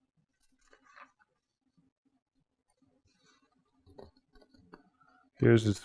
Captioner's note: turning pages